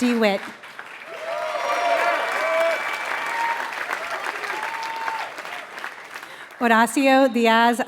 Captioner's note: applause